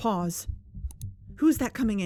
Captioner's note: click